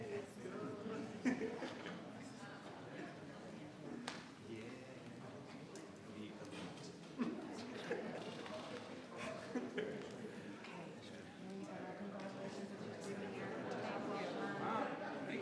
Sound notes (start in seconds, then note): 1.0 member laughs; 1.9 members chattering; 8.5 member laughs; 10.8 members chattering; 12.9 members chattering